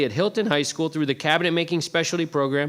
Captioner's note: none